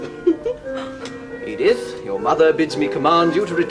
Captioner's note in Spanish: Risas